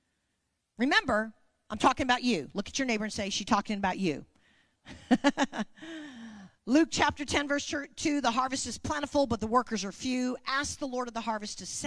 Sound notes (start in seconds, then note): 5.0 laughing